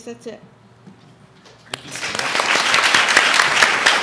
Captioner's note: audience applauds